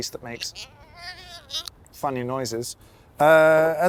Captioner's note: piston squeaking